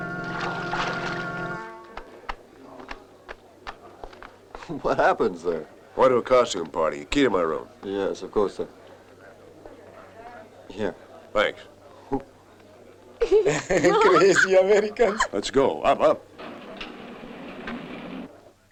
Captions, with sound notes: What happened, sir? Went to costume party. The key to my room. Yes, of course, sir. Here. Thanks. [CHUCKLES] [LAUGHING] Crazy Americans. Let's go. Up, up.